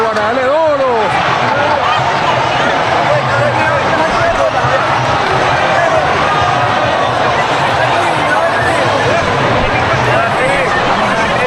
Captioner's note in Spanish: ovación